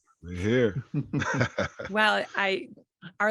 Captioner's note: chuckling